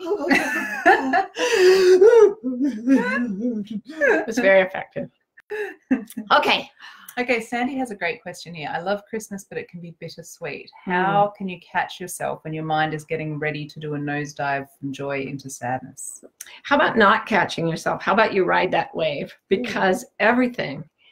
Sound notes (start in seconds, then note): 0.0 laughing; 1.2 whimpering